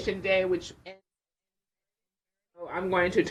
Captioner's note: distorted audio